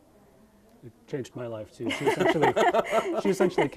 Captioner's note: all laughing